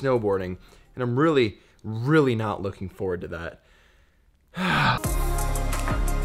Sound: sighs; light electronic music

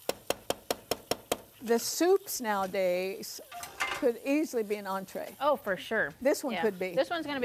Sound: tapping sound

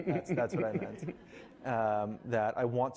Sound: laughing

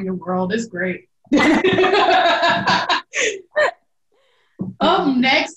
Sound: laughing loudly

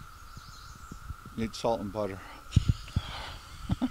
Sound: laughs

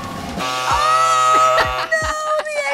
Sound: drum roll; buzzer

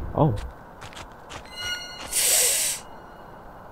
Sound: somebody's else footsteps

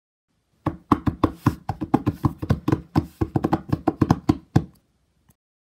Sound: thumping sounds

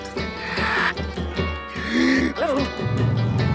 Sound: deep breathing

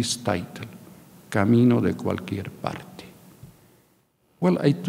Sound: speaking in a foreign language

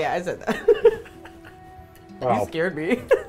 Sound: laughs

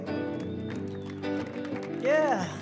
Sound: audience cheering

